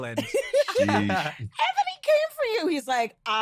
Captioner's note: laughter